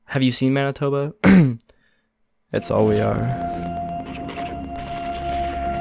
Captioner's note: clears throat